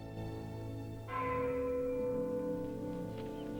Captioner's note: church bell tolling